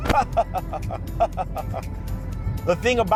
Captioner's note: laughing